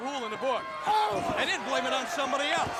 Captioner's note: crowd chatters